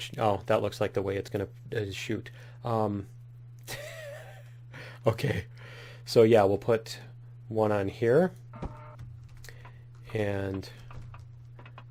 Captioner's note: laughs